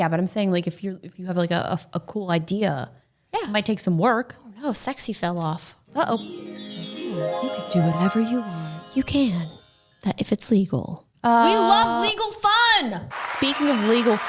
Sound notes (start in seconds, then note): 5.8 chiming; 13.1 crowd cheers